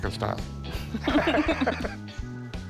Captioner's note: both laugh